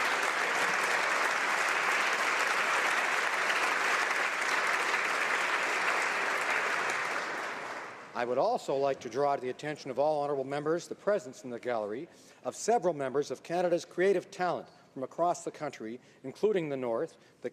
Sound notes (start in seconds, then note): 2.0 applause